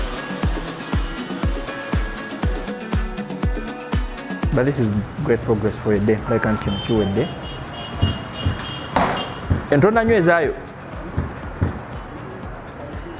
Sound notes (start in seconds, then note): 0.2 upbeat music; 7.0 speaking foreign language